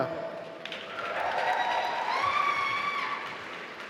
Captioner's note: applause